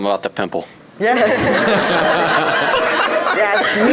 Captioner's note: audience laughing